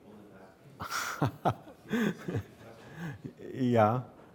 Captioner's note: laughs